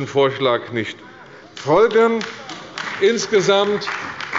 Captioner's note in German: Beifall bei der CDU und dem BÜNDNIS 90/DIE GRÜNEN